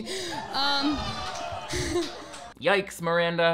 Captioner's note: audience groans